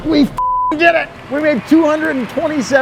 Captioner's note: beep